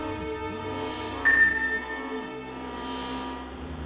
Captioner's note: radar ping